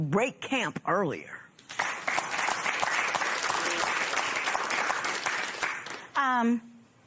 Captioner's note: applause